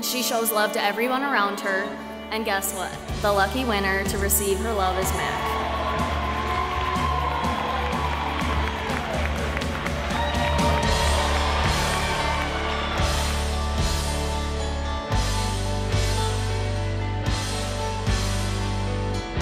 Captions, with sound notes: She shows love tot everyone around her, and guess what? The lucky winner to receive her love is Mac. *crowd cheering* *music builds*